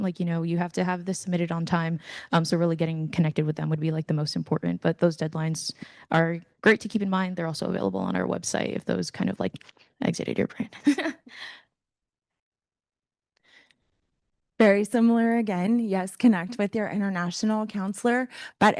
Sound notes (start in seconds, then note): 10.9 panelist chuckling